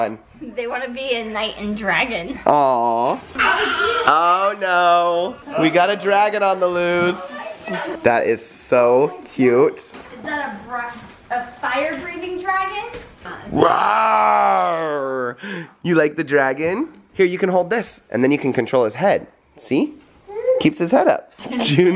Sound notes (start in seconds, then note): 3.4 roars